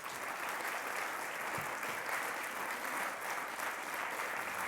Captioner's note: applause